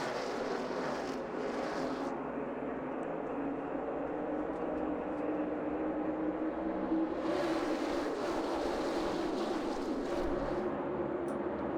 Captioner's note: engines roar